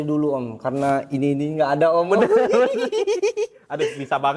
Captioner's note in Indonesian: tertawa